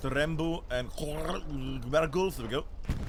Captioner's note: gurgling noises